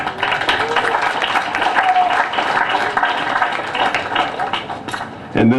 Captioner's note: applause